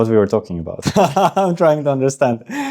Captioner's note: laughs